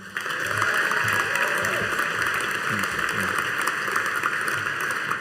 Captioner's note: audience cheering and applauding